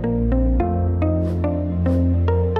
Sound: upbeat electronic music; swoosh; upbeat electronic music

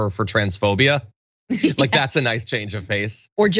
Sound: laugh

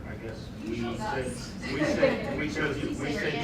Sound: laughter

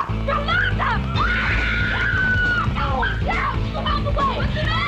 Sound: shouts loudly

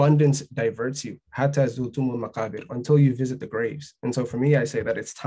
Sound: speaking arabic

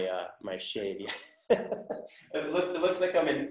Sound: laughing

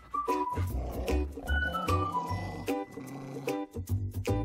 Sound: light hearted upbeat music; dog snarls

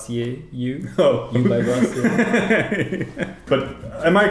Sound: laughs

